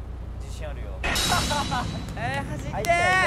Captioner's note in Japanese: 手拍子